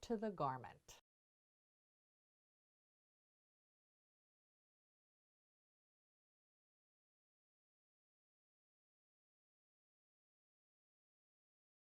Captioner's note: no Sound Present